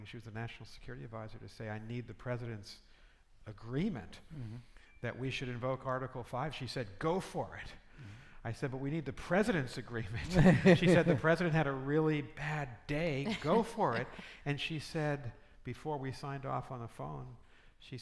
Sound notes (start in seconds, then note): 10.2 laughing